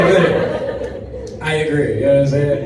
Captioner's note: audience laughs